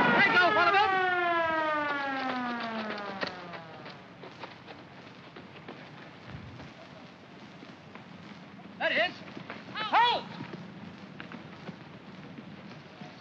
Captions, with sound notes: - There he goes, follow him! (running footsteps) - There he is! Halt!